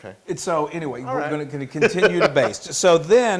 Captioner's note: laugh